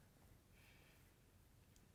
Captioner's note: sigh